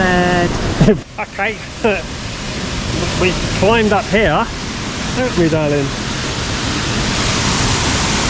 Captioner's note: laughs